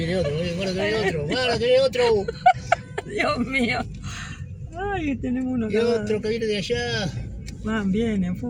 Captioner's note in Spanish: risas